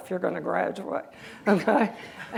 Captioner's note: laughter